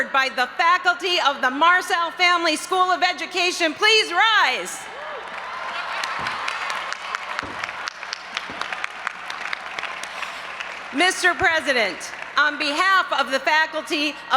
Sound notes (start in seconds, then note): 4.8 audience applauding and cheering